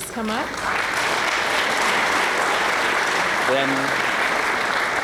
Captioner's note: applause